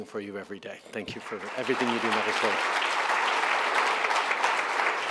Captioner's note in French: Applaudissements